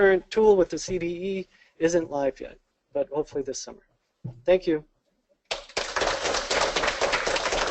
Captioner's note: applause